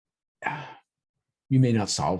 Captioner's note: sigh